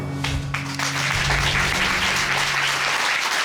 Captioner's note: applause